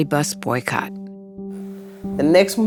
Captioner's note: soundbite of archived recording